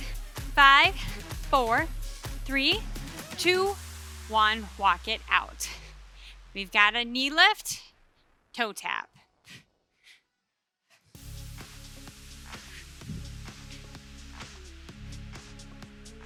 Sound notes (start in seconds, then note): 9.2 breathing deeply; 9.2 upbeat music continues